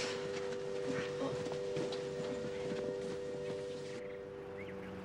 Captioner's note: birds chirping